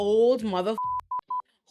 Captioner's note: beep